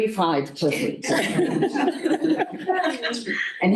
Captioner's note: laughter